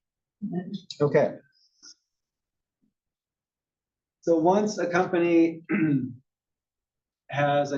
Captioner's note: cough